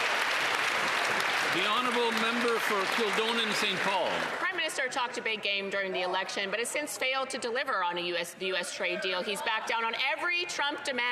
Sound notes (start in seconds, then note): 4.7 some Applause